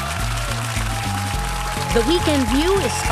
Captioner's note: audience applauding